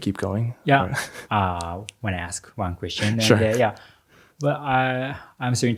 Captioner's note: chuckles